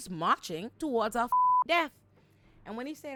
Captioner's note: beep